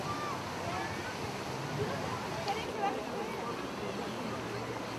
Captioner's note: people chatter